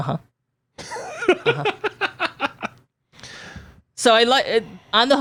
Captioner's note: laughs